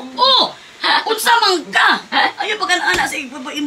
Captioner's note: bisaya tone